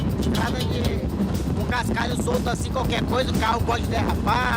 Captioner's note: Portuguese spoken audio